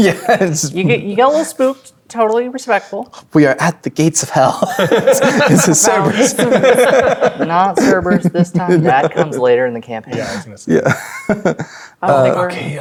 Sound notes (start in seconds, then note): 0.0 laughing; 4.4 laughing